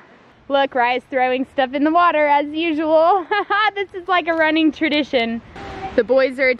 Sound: laughing

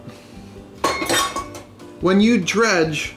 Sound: clanging

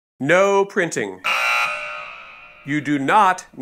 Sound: buzzer sounds

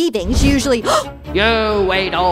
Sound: gasp

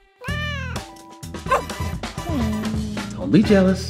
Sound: cat meows

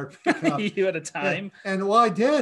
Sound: chuckles

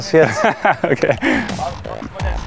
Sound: lachend

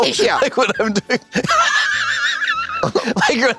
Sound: Katya cackles

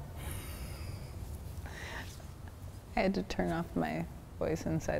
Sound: laughing

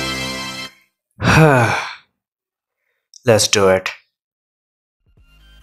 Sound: sighs

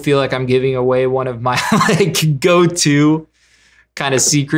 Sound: laughs

